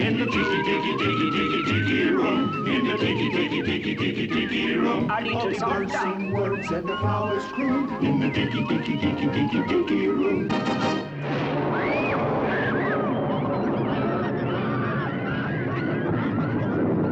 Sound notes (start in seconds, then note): 11.0 thunder rumbling; 11.7 children screaming